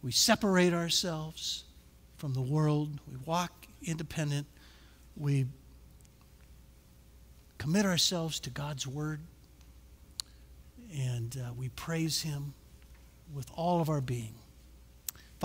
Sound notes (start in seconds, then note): none